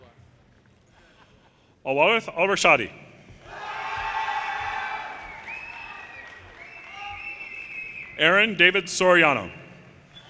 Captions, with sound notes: Al Warith Al Rashdi, (audience cheers and applause) Aaron David Soriano,